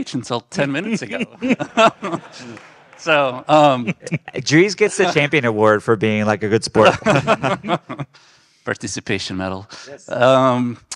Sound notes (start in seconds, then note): 4.0 audience clapping; 4.0 guest laughing; 6.7 group laughing